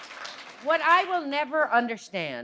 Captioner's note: applause